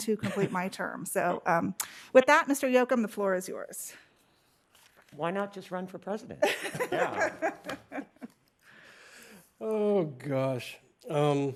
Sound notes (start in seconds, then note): 6.4 laughter